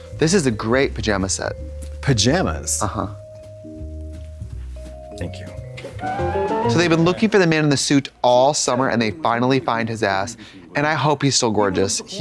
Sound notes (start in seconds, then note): 4.8 bright chime